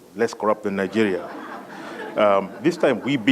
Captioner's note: laugh